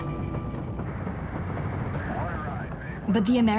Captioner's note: faint radio transmission